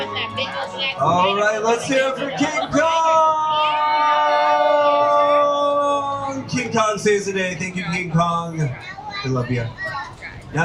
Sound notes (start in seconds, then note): 4.3 tourists cheering